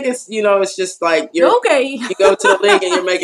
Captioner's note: laugh